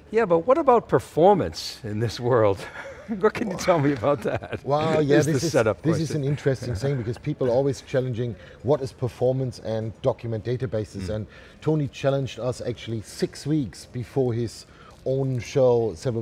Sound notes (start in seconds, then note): 3.4 laughs